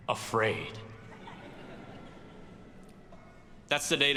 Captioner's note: audience laughs